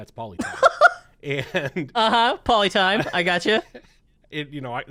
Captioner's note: laughs